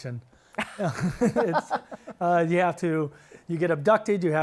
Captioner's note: chuckles